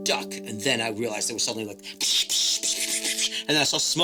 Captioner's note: makes SFX